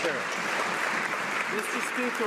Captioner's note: some Applause